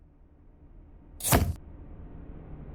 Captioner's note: camera shutter sound